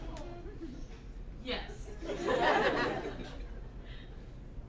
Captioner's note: laughter